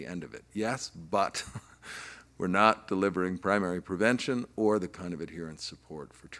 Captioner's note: chuckling